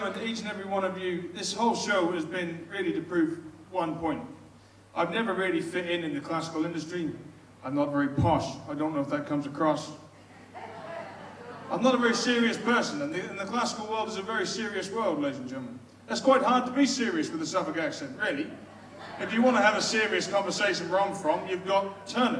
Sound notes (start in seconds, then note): 10.2 audience laughs